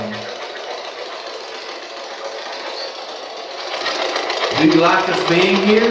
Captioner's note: white Noise